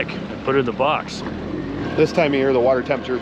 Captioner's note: boat engine idling